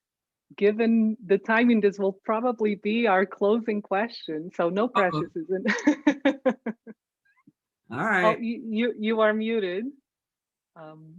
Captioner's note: laughing